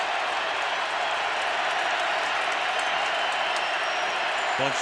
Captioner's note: crowd cheering